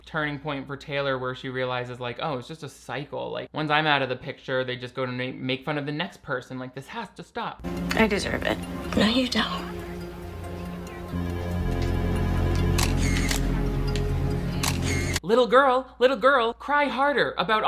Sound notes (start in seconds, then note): 11.1 phone ringing; 14.5 camera snapping